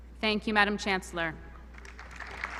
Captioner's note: applause